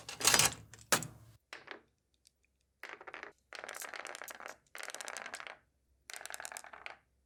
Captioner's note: marbles rolling